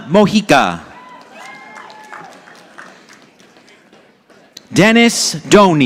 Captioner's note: audience applauding